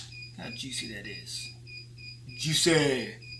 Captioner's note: pot beeping